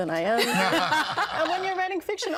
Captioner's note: all laughing